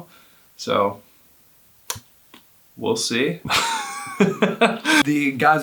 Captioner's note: laughs